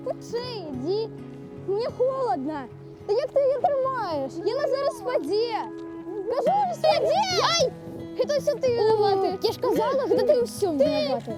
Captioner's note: arguing